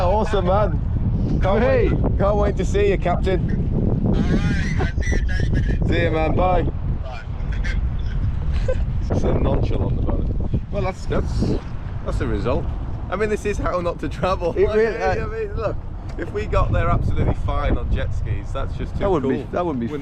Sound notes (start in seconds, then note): 7.2 laughs